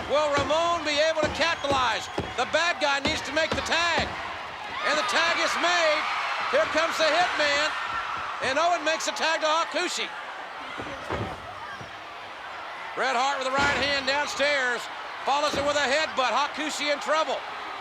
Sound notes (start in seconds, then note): 5.7 spectators cheering